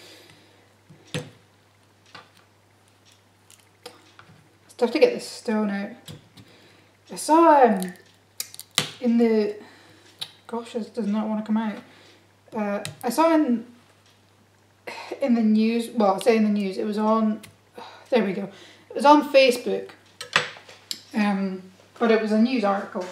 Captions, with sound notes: It's tough to get the stone out I saw in the... (tuts) Gosh, this does not wanna come out I saw in the news, well I say in the news, it was on Uoh, there we go It was on facebook but it was a news article